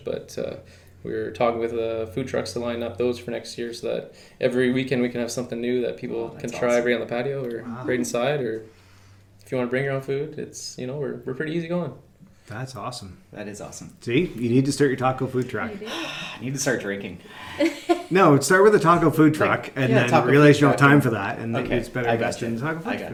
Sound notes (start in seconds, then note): 15.8 sighs; 17.3 laughing